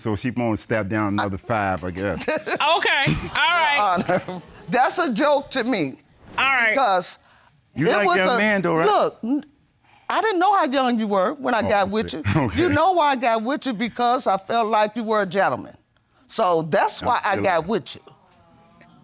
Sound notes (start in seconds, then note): 2.0 laughing; 11.8 scoffs